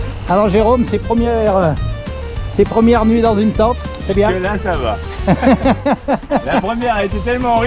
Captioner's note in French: rires